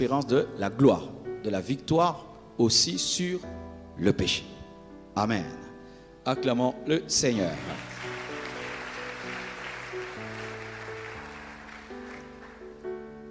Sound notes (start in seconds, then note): 7.5 applause